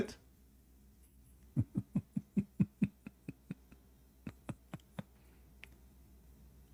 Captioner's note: Ketawa